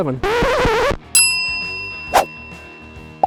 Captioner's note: record scratch